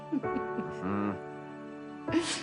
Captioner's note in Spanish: Risas